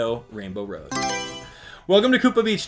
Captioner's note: Mario Selection Sound